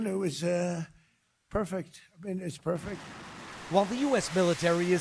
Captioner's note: applause